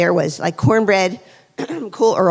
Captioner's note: clears throat